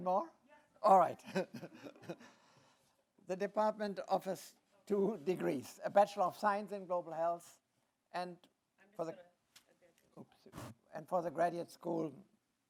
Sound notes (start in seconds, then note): 1.2 chuckles